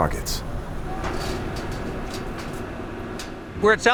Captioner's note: metal banging